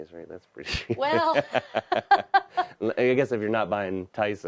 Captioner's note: laughing